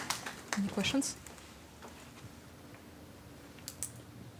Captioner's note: audience applauding